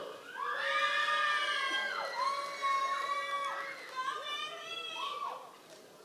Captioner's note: members of the audience cheering